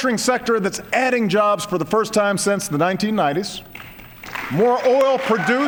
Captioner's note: applause